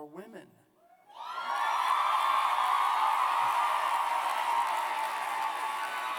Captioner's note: cheers